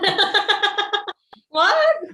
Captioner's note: both laughing